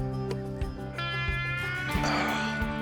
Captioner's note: groans